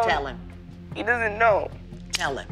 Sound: voice breaking

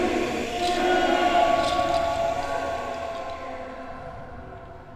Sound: voices shouting

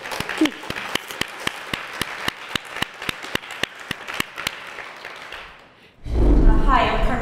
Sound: applause

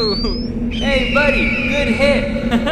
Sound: eagle screeching

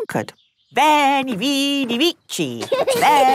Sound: laughing

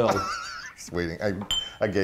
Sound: laughing

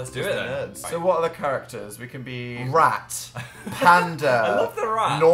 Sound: laughs

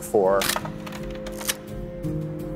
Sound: camera shutter clicking; soft music plays

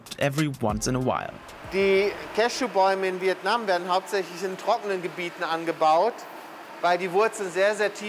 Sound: speaks German

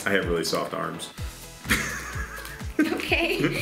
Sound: laughs

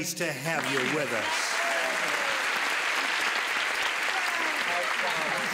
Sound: cheers and applause

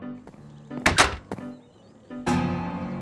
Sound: saloon doors slam

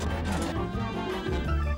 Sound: percussion music; phone ringing

